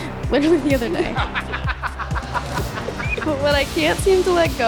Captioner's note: laughing